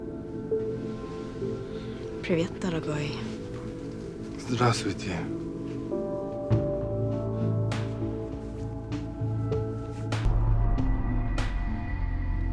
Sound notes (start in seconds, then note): 2.3 speaking russian